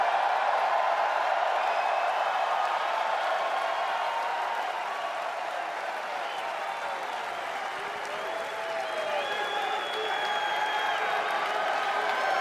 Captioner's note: cheers and applause